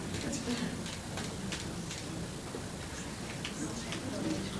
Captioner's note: crowd talking indistinctly